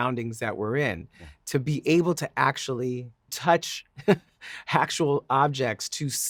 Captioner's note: chuckling